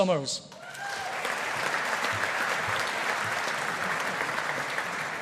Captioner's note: audience applauding